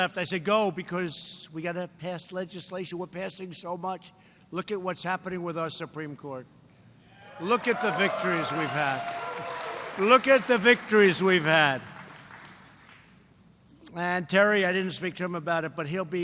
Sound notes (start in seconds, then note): 11.7 applause